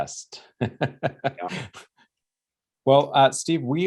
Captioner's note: laughing